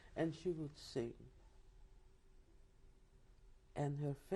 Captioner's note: pauses for 3 seconds